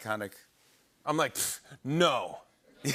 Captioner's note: laughter